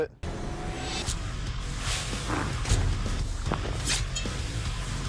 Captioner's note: impact sounds